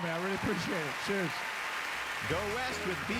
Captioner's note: applause